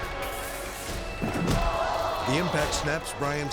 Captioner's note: dramatic music; impact pounds; crowd gasping